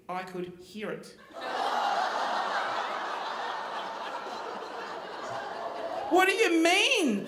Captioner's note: audience laughing; audience groaning